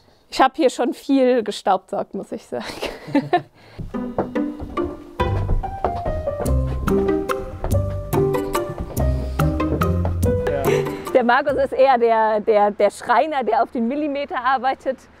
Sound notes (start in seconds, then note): 2.6 laughter; 4.3 playful music